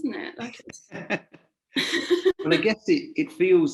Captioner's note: laughing